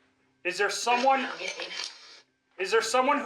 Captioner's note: box mutters